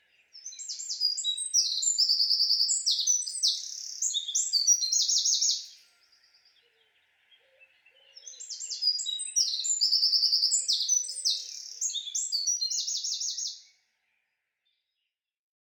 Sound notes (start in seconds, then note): 6.0 birds chirping